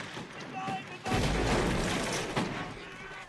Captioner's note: german soldiers shouting